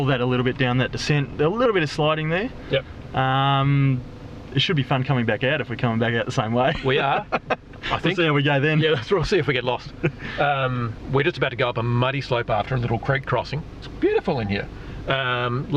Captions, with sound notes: that a little bit down that descent. A little bit of sliding there. - Yep. - It should be fun coming back out if we come back the same way. (laughs) - We are. - I think-- - There we go then. - Yeah, lets see if we get lost. We're just about to go up a muddy slope after a little creek crossing. It's beautiful in here.